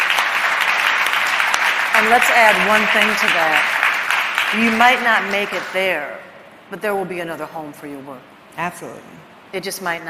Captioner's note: applause